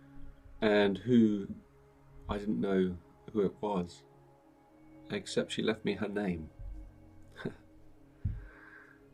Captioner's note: chuckles